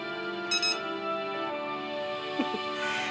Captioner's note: scanner beeping; laughs